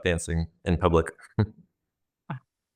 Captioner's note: chuckles